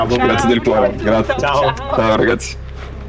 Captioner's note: speaking Italian